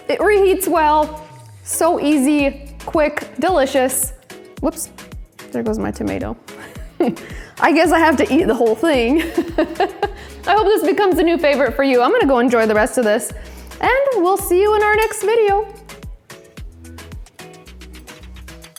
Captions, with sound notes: It reheats well, so easy, quick, delicious. Whoops. There goes my tomato. (laughs) I guess I have to eat the whole thing. (laughs) I hope this becomes a new favorite for you. I'm gonna go enjoy the rest of this and we'll see you in our next video. (upbeat music)